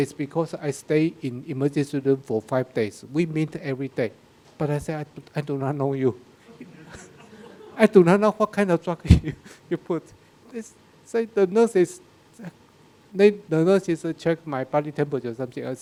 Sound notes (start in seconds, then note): 6.5 audience laughing